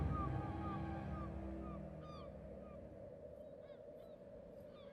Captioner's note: wind whistling